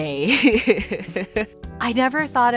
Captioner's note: laughs